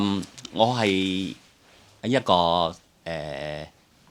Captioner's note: Cantonese